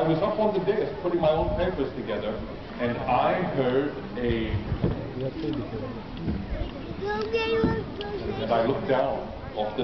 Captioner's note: thumps cane